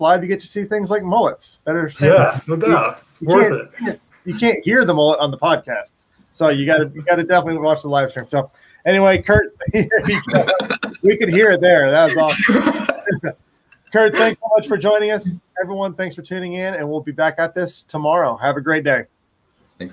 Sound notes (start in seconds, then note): 11.9 all laughing